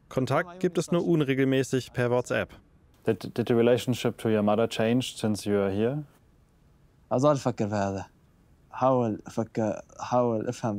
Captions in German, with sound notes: Kontakt gibt es nur unregelmäßig per WhatsApp. (englisch:)